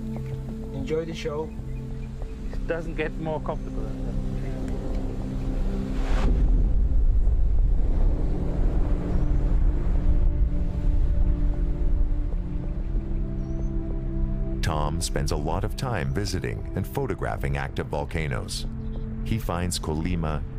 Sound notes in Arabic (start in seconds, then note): 4.3 انفجار بعيد